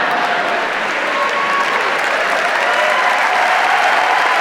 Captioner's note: audience cheers